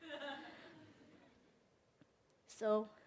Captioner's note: audience member laughs